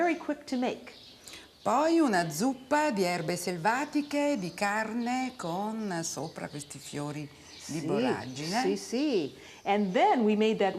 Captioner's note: speaking Italian